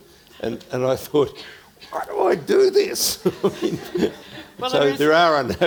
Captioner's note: laughs